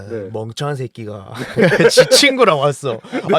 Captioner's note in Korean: 웃음